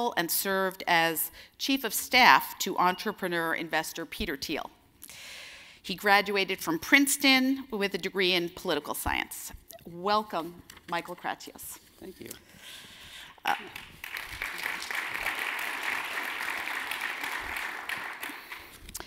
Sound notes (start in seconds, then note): 13.4 audience claps